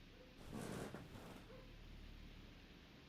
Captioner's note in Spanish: cama cruje